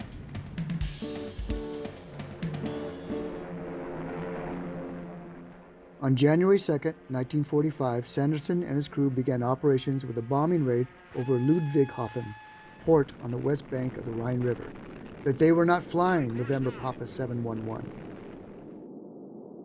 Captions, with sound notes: (engine whirs) On January 2nd, 1945, Sanderson and his crew began operations with a bombing raid over Ludwigshafen port on the west bank of the Rhine River. But they were not flying November Papa 711.